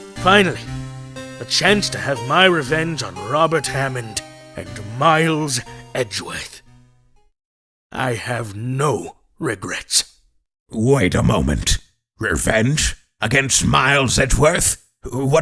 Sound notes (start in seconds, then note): none